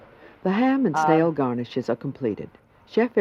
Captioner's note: voiceover